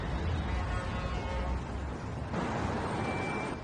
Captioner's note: traffic honking